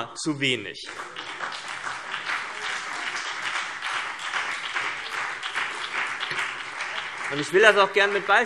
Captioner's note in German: Beifall CDU und BÜNDNIS 90/DIE GRÜNEN